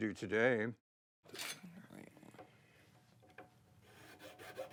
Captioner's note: file clinks